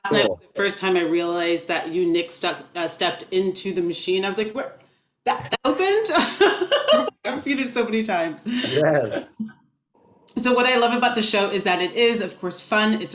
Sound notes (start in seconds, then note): 6.3 laughs